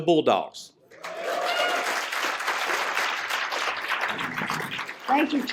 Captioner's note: applause